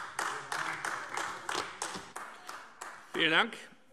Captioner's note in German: Beifall AfD